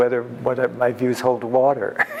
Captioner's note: laughs